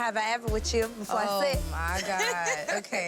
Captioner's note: laughing